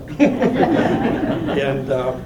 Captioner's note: laughter